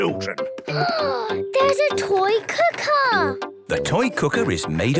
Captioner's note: gasps